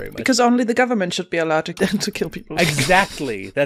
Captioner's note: laughs